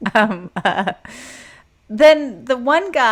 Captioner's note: both laugh